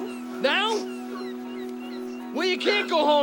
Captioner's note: birds chirping